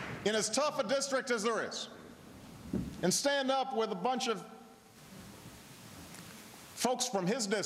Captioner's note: applause